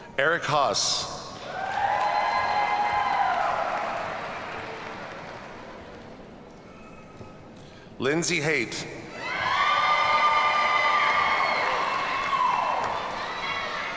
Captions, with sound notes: Erik Haas. (audience cheers and applauds) Lindsey Haydt. (audience cheers and applauds)